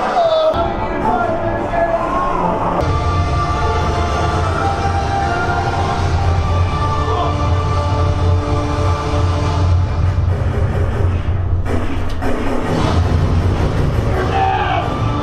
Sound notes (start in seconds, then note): 3.0 suspenseful music; 11.6 gun firing